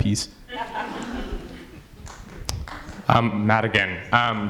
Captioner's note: audience laughs